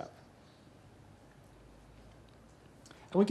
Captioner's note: pause